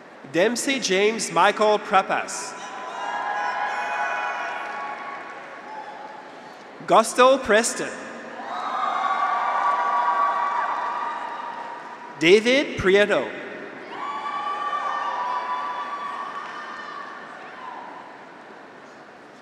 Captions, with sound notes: Dempsey James Michael Prappas. (graduates cheer) (audience applauds) Gustell Preston. (graduates cheer) (audience applauds) David Prieto. (graduates cheer) (audience applauds)